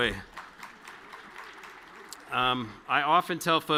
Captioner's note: audience clapping